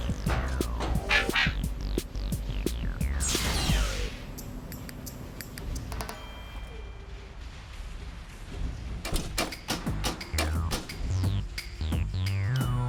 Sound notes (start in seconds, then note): 0.2 robotic barking